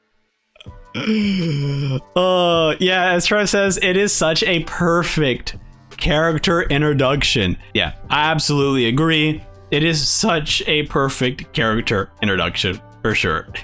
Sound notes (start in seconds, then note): 0.9 laughs